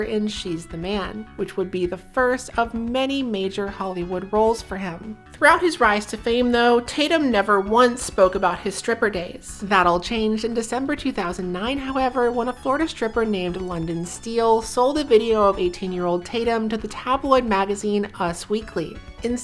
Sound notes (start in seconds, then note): none